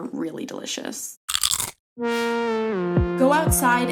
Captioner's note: pickle chips cracking